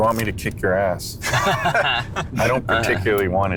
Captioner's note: laughing